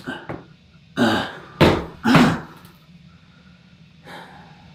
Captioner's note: breathing heavily